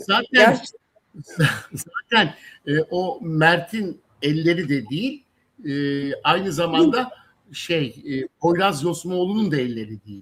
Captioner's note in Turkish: kahkaha